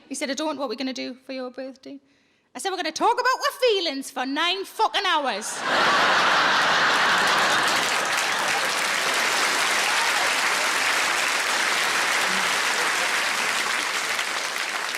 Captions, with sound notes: He said, I don't, what we gonna do for your birthday? I said, we're gonna talk about our feelings for nine fucking hours. (audience laughing) (audience applauding)